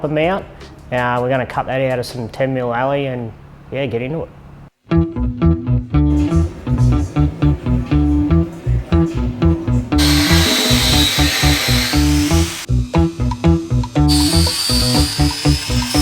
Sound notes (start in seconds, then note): 4.0 funky music; 10.0 tool grinds; 14.0 tool grinds